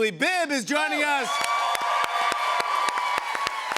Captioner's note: cheers and applause